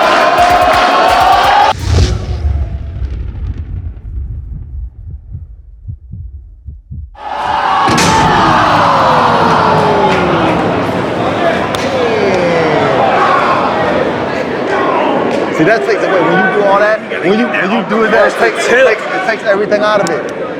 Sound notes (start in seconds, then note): 4.1 heart beating; 7.7 crowd